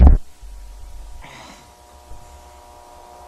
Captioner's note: thump; groan